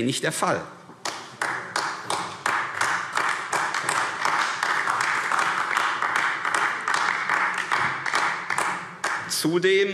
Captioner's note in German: Beifall AfD